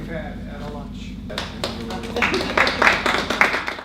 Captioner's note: applause